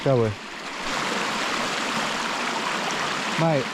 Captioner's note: water splashing